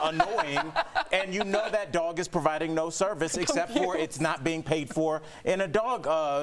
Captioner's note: laughter